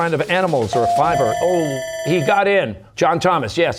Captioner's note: ringer dings, bell ringing